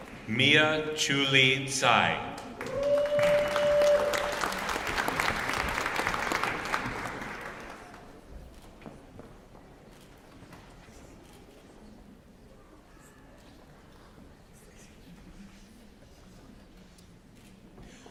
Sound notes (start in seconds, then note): 2.2 applause